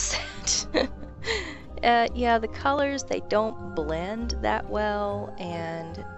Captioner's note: laughter